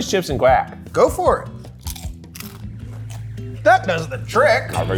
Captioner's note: chips crunching